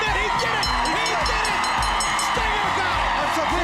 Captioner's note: bell dinging